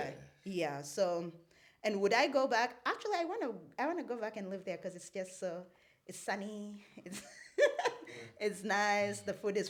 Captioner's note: laughs